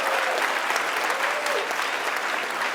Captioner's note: applause